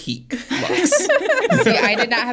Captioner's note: everybody laughs